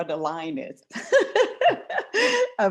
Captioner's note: laughs